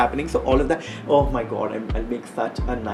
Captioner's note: interrupts self